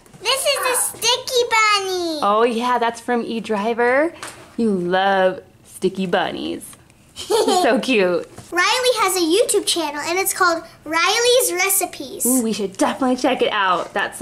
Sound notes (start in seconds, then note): 7.2 laughs